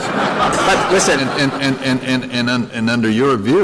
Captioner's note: laughter